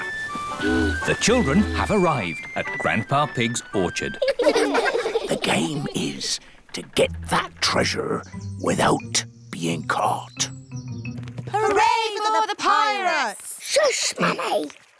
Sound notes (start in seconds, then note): 4.2 all giggle; 5.4 whispers